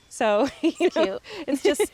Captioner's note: laughs